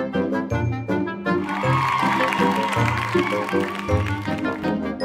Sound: cheers and applause

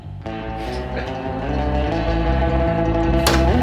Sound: laughs

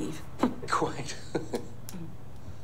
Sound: laughs

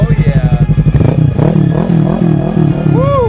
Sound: engine revving

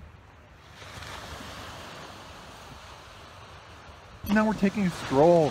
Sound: water splashing

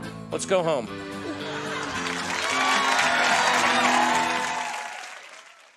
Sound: audience laughter and applause

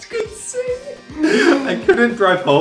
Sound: laughing

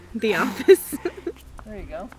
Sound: laughs

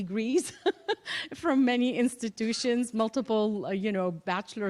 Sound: laughter

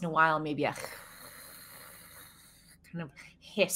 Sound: Deborah hisses

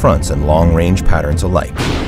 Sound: thunder crack

